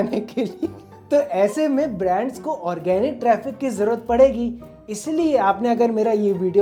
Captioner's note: laughing lightly